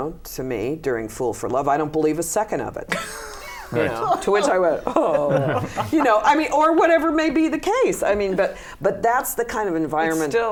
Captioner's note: laughter